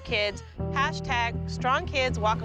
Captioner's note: gasps